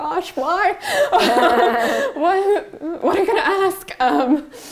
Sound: laughs

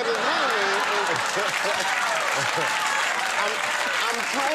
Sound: applause

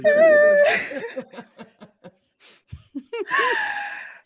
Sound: all laughing

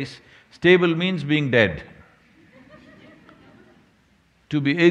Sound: laughter

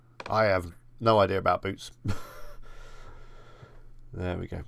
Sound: chuckles

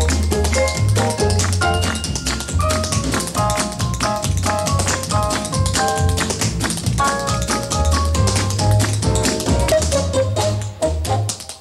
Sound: applause

